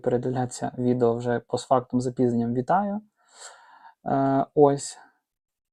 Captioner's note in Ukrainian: сопіння